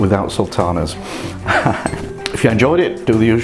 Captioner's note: laughs